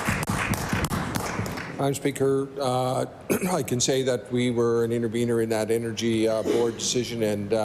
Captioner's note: applause